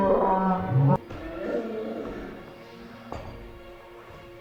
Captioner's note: screams, crying